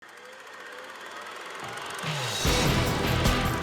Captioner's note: tape whirring; upbeat music